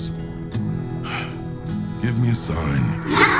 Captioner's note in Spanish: suspiro